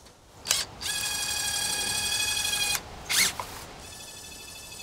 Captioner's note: machine drilling